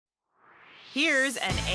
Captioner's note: swoosh